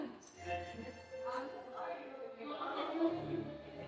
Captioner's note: crowd murmurs